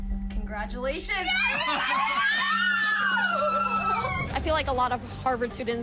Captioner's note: squealing